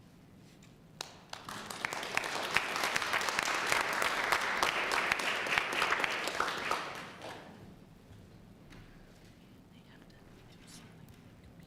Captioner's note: applause